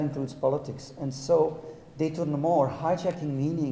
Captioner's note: speaking in a foreign language